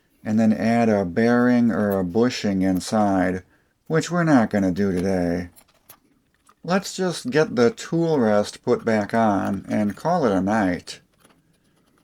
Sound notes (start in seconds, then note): none